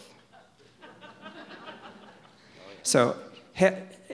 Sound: audience laughs

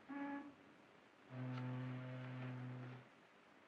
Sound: fog horn in distance

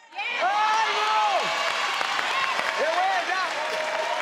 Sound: crowd cheers

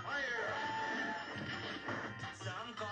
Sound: elephant trumpeting

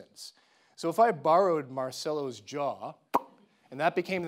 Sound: mimicking popping

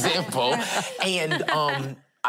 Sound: laughing

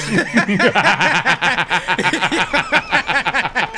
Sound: men laughing

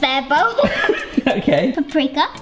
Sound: laughing

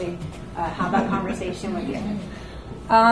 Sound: audience laughs

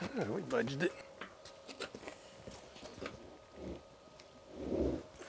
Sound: grunts

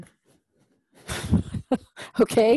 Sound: laugh

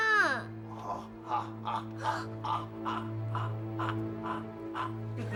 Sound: laughs

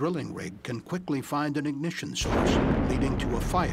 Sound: sound of explosion

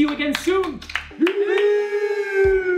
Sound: clapping

